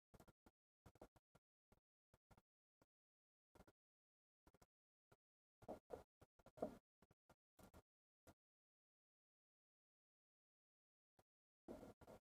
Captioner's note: silence